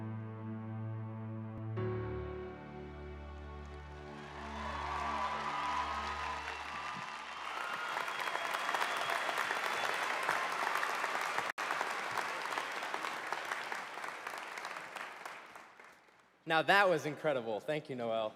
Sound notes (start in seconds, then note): 3.1 applause